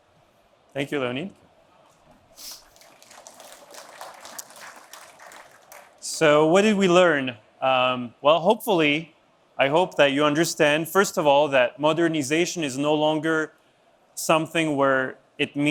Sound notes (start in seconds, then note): 2.5 applause